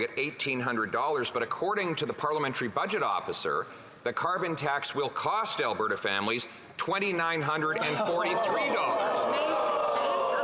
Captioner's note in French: voix de l'interprète